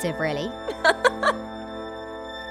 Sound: Hermione laughs

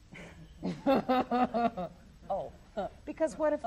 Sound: laughs

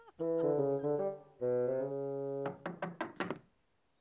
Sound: knocking on door

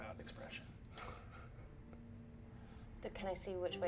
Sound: chuckles nervously

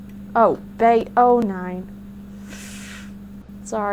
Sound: inhale of embarrassment

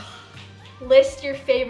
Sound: sighs

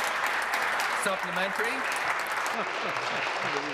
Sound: applause

